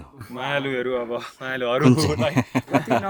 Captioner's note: laughter